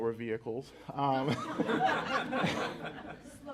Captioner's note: laughter